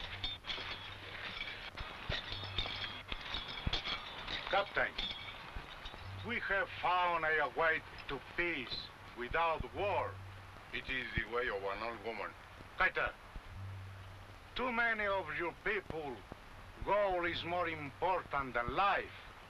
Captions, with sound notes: - Captain, we have found a way to peace without war. - It is the way of an old woman. (speaking foreign language) - To many of your people, gold is more important than life.